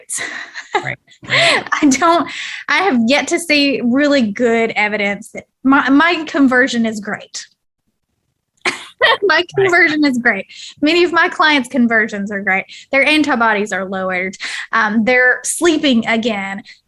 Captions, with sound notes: I don't... I have yet to see really good evidence that... My conversion is great. [laughs] My conversion is great, many of my clients' conversions are great, their antibodies are lowered, they're sleeping again,